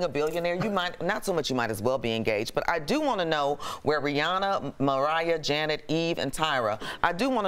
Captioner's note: laughter